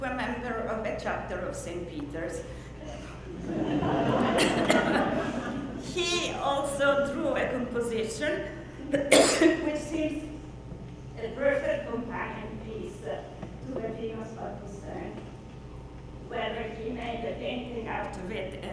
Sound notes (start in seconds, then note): 3.2 audience laughs loudly